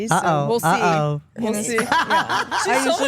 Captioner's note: Stephanie laughs